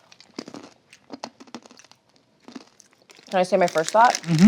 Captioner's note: peanuts crunching